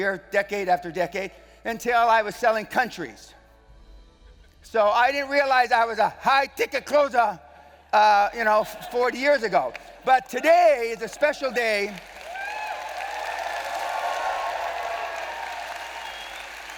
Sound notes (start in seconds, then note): 11.4 audience Cheering